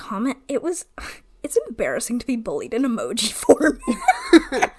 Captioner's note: laughs